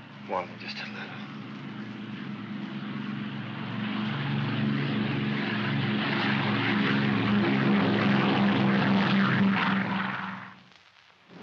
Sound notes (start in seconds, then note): 2.7 aircraft roars overhead